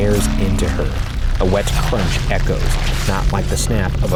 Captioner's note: flesh squelching